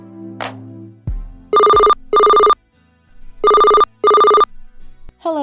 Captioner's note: telephone Ringing